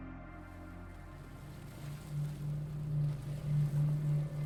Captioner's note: muffled sea bottom sounds